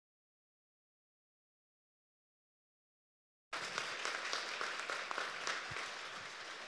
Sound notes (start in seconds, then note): 1.7 applause